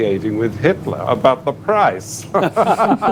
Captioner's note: laughter